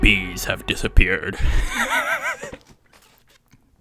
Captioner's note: laughs